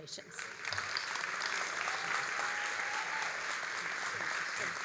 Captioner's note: all applauding